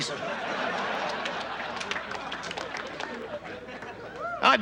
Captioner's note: audience laughs